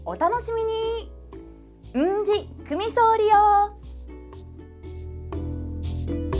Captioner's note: in Okinawan